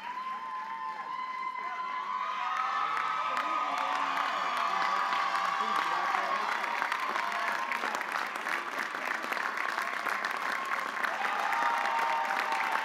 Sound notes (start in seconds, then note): 3.4 audience cheering; 9.6 audience applauding